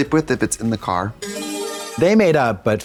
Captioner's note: bright chime